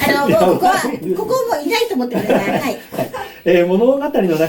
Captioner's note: laughs